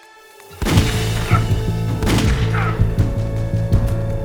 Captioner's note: guns firing; dramatic music